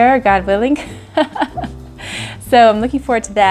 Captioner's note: laughs